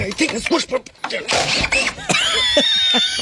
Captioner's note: screaming